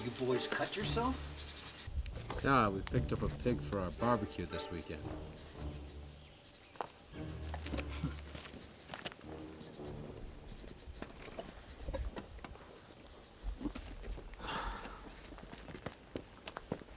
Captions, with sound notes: One of you boys cut yourself? - No, we picked up a pig for our barbecue this weekend. (scoffing) (sighing)